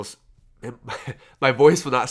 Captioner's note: laughs